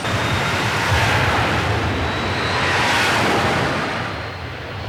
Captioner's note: jet engines roar